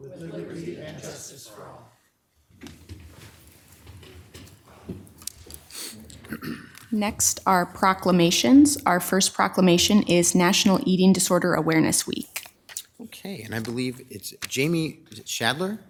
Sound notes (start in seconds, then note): 2.4 chairs scraping; 5.9 clears throat